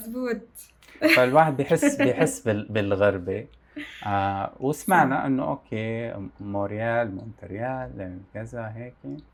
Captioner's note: laughs